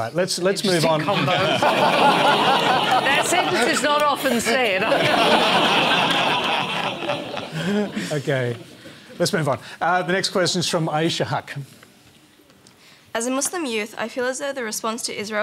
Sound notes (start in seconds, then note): 4.5 laughter